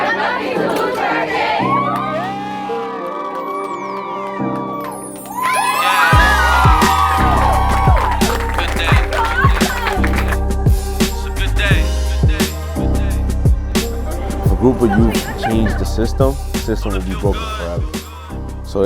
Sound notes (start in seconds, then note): 2.9 group Cheers; 5.9 louder cheering and applause